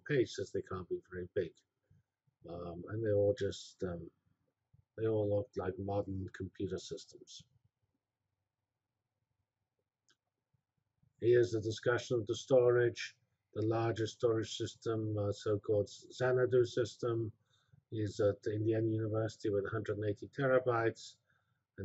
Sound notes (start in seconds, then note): 7.3 pause